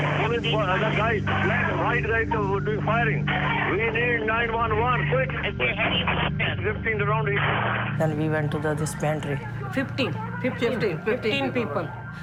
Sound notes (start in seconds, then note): 5.6 recording crackles